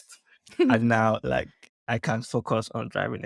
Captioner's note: giggles